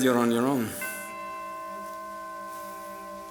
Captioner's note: chime